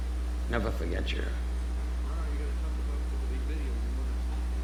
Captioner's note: speaking off-mic